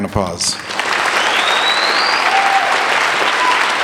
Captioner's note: applauding